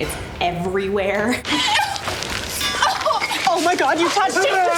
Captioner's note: laughs; ladies gasping